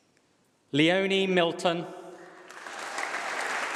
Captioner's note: applause